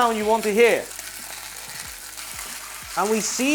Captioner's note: sizzling sound